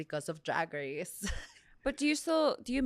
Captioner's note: laughs